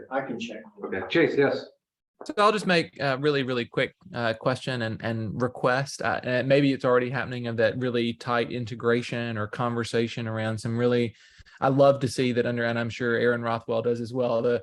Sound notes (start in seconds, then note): none